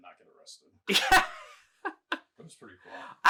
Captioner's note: laughing